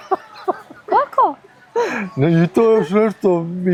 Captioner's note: laughter